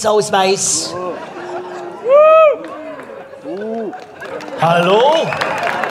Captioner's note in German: Jubel und Buhrufe